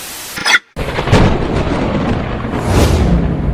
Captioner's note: signal scrambles; thunder rumbles